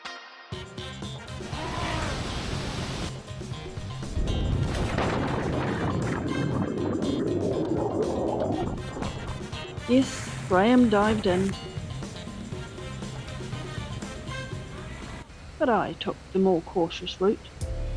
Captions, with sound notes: Aaaagh! [splashing and bubbles] Yes Graham dived in, and I took the more cautious route